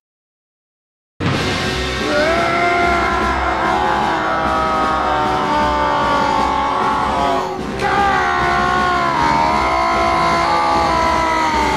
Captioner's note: random screaming noises